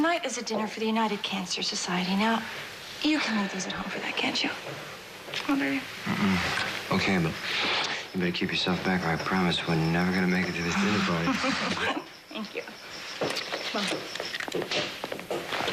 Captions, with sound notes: Tonight is a dinner for the United Cancer Society. Now, you can leave these at home for that, can't you? Huh, baby? Mmm. Okay, but you better keep yourself back, or l promise we're never gonna make it to this dinner party. (LAUGHS) Thank you. Come on.